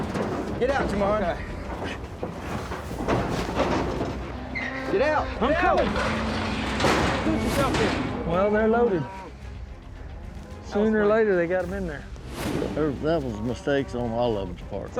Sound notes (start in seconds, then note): 1.5 grunting; 6.6 gate clanks shut